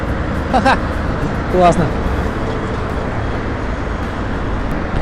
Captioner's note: laughter